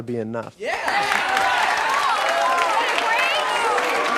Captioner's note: cheering